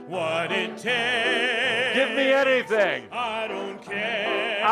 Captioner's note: audience joins in